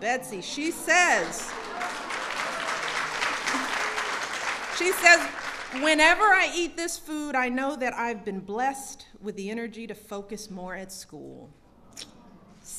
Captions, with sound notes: Betsy -- she says -- (applause) She says, "Whenever I eat this food, I know that I've been blessed with the energy to focus more at school."